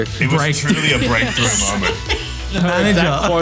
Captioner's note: laughing